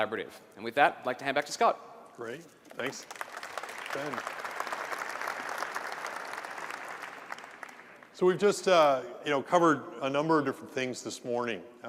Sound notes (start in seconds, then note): 2.7 applause